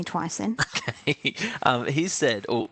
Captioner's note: chuckles